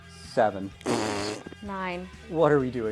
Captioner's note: fart